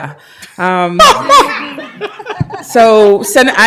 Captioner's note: laughter